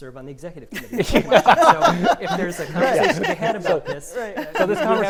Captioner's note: panelists laughing